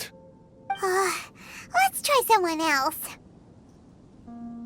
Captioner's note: sigh